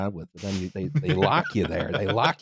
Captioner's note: laughs